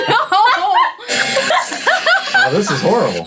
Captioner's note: ladies laughing